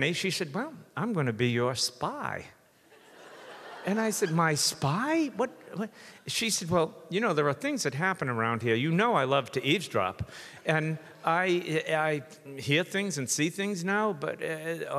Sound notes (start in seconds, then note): 2.9 audience laughs; 5.5 stammers